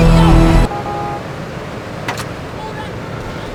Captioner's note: car horn